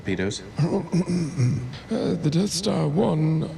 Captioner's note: clears throat